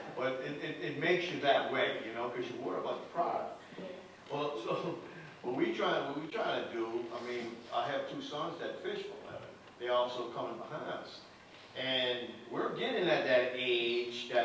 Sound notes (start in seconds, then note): none